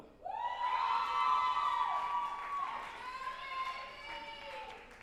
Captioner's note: group applauding and cheering